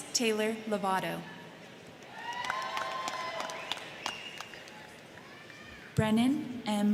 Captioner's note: crowd clapping; crowd cheering